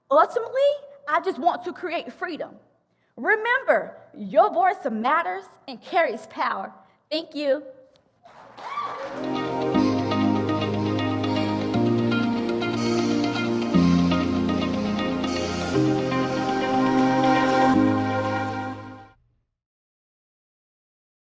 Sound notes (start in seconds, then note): 8.2 audience clapping; 10.1 upbeat music